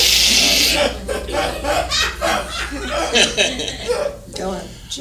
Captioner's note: laughter